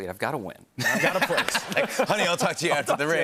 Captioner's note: laughter